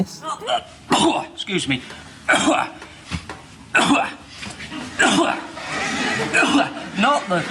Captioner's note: many coughs!